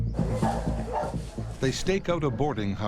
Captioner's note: suspenseful music; dog barks